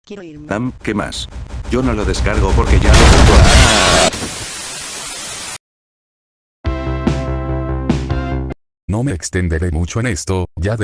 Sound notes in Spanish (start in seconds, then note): 0.8 Sonidos de sufrimiento